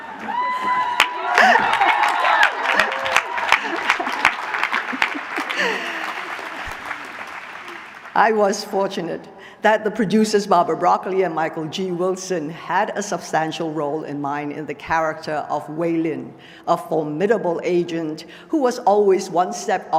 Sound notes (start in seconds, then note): 2.7 applause; 3.4 laughter